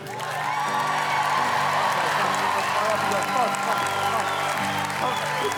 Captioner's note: gets audience clappin